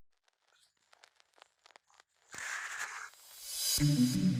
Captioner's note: static